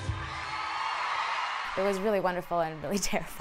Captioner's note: audience cheers